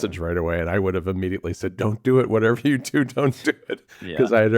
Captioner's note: laughs